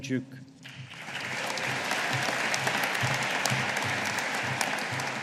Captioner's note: audience applauding